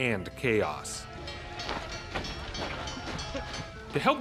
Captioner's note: chatter